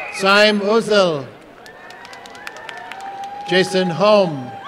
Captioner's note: applause and cheering